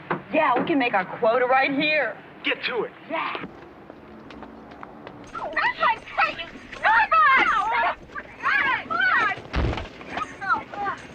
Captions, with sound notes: - Yeah, we can make our quota right here. - Get to it. -Yeah! (yelling and screaming)